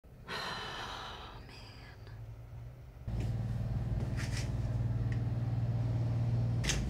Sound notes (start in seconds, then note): 0.2 sighs; 3.0 distant motor buzzing